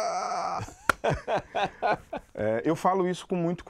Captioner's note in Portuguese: rindo